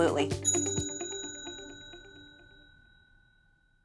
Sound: ding

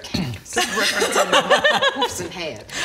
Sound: snickering

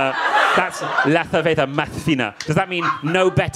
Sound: speaking Spanish

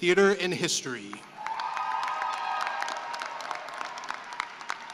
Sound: cheering and applause

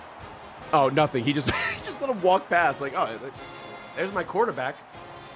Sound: laughs

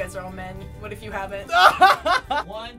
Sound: laughing

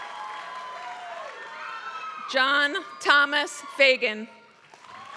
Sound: applause; applause

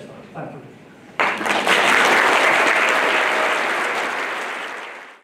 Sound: applause

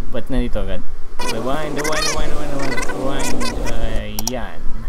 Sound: rewinding In Progress

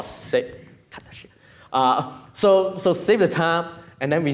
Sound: whispers

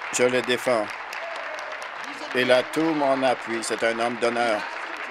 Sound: applause

